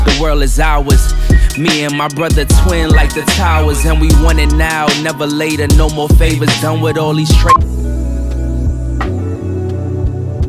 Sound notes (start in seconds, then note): 7.3 tone beeps